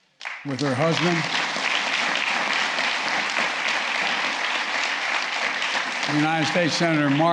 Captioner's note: applause